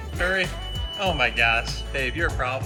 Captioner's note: beeping